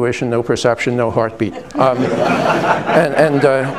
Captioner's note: laughter